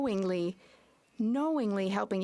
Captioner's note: speaking French